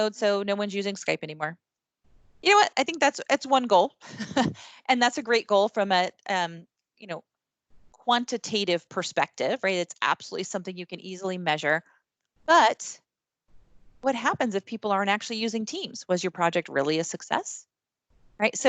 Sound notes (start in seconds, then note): 4.1 chuckles